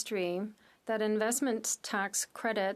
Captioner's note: speaking French